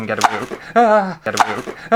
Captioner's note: loud Squeak!